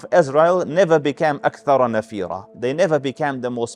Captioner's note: Arabic